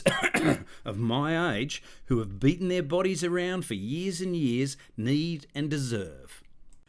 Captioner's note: cough cough